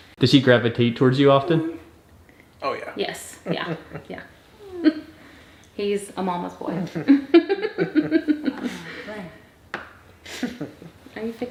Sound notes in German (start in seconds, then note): 6.6 lacht